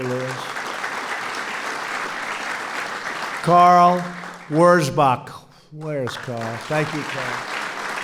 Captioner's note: applause